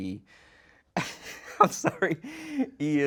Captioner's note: laughs